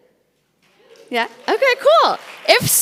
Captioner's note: audience claps